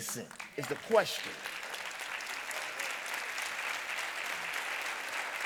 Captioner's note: audience applauding